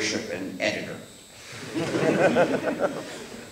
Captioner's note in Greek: Γέλια από το ακροατήριο